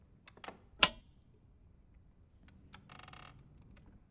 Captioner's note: lamp clicking